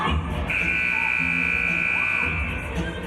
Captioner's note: buzzer